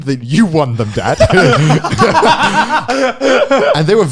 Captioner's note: all laughing